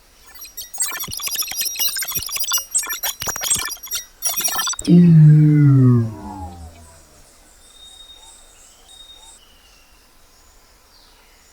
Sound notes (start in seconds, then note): 0.2 female prototype blipping; 4.9 shields whir